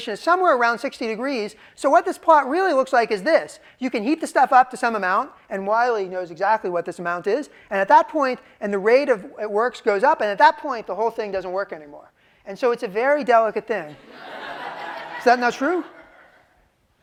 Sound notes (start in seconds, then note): 14.0 laughter